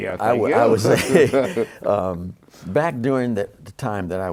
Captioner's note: laughter